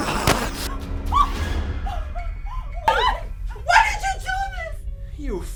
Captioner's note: Sickle squealing